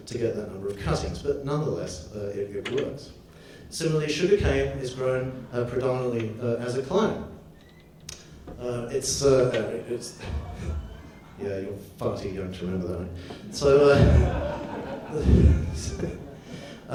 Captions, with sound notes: to get that number of cuttings. But nonetheless, it works. Similarly, sugar cane is grown predominately as a clone. It's (laughs). (door squeaks) Yeah, you're farty, you've ruined the night. (audience laughs)